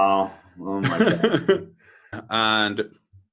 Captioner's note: laughs